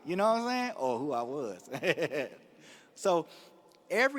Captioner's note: laughs